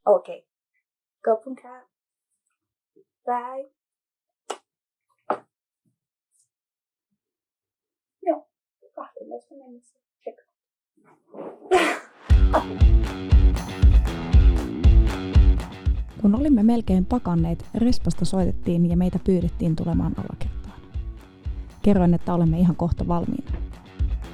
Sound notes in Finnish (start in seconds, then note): 11.7 nauraa; 13.8 Menevää rock-musiikkia